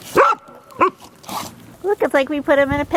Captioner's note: dog barks